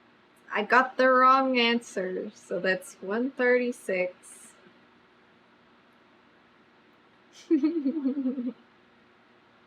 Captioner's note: laughs